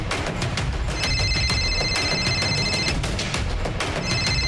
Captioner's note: phone ringing